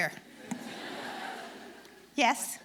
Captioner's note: audience laughing